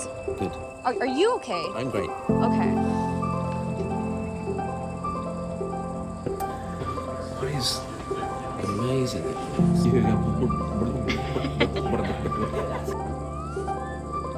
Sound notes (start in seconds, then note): 10.9 salmon noise; 11.8 laughter